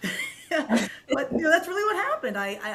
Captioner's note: laughing